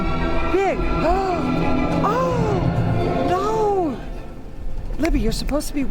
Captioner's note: gasps